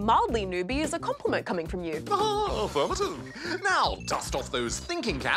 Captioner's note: laughs